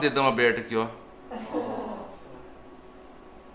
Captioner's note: laughs